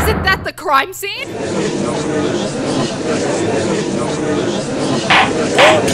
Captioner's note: gallery chattering; gavel slams!